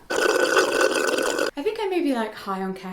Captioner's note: slurping